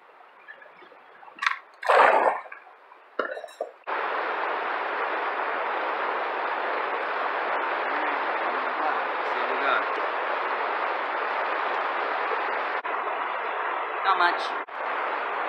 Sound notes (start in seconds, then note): 1.2 splash